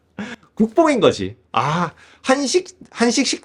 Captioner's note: sigh